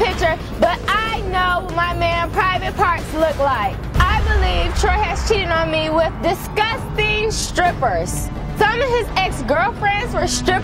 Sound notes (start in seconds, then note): none